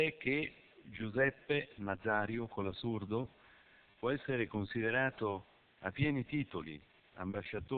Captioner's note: Italian